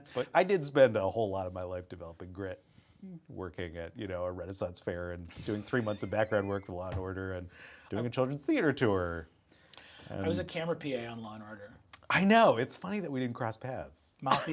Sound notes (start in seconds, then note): 5.5 Brennan chuckling; 7.3 fist thumping